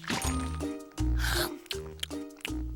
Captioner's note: splat; chomping